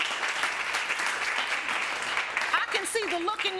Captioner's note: audience applauding